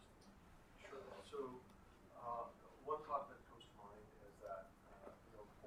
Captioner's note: speaking distantly